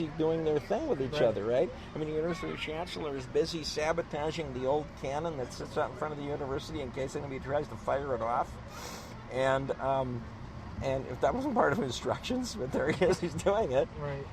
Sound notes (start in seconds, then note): 12.6 laughs